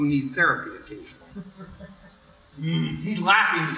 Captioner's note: offscreen chuckle